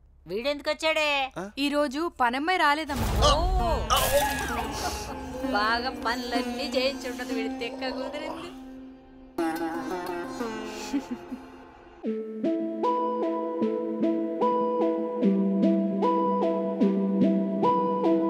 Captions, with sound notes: Why did he come here? The maid didn't come today. Oh. I'm sure she made him do all the household chores. (Chuckles)